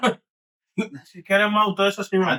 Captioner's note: speaking Foreign Language